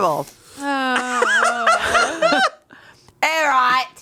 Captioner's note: sighs; laughs